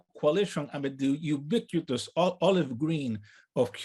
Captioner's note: speaks in native language